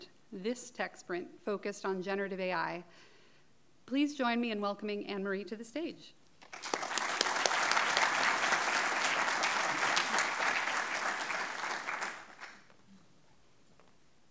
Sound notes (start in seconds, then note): 6.4 everybody clapping